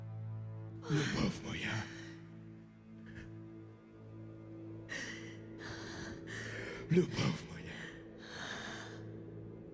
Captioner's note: Ukrainian